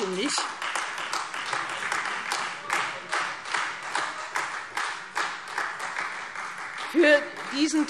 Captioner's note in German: Beifall